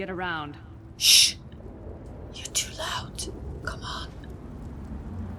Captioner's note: whispers